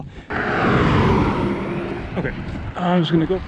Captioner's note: vehicle roars